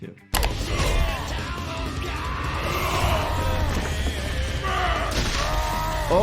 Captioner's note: characters yelling and heavy rock music